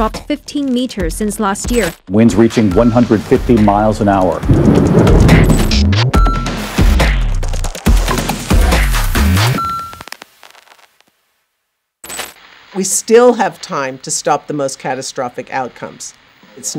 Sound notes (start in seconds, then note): 4.3 storm winds howling; 4.5 somber music